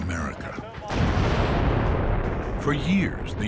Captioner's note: explosion